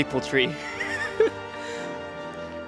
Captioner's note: giggles in Canadian